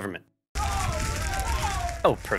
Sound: fire crackling and people sobbing

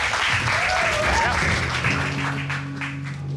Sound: audience cheering, applauding

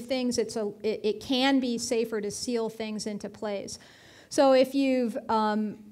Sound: none

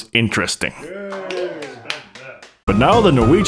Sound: tepid applause

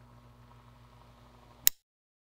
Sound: click

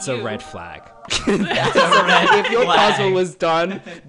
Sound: all laughing

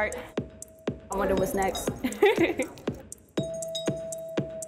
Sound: laughing

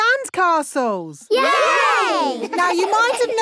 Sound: laughing

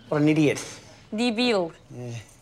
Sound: speaking russian

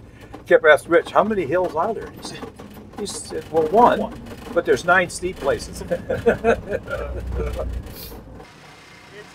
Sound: laughing

